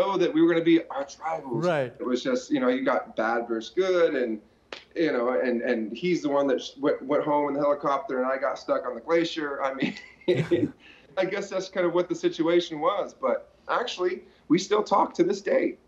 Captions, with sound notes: that we were gonna be "archrivals." - Right. - It was just, you know, you got bad versus good, and, you know-- and--and he's the one that went--went home in the helicopter, and I got stuck on the glacier. I mean... [both laugh] I guess that's kind of what the situation was, but, actually, we still talk to this day.